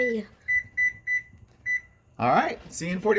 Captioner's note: beeping